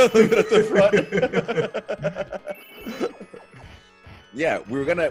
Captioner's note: laugh